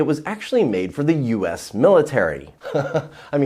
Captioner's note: laughing